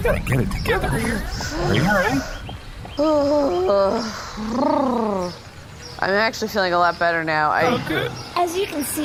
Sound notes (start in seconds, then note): 6.1 breathing deeply, exhales shakily